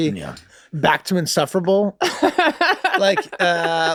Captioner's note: laughs